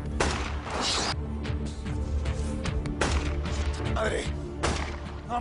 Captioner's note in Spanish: Disparos